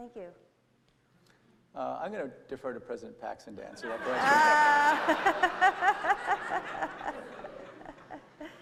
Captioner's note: laughter